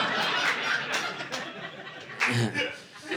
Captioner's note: audience laughing